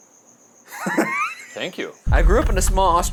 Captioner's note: laughs